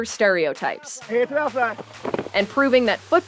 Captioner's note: coach shouting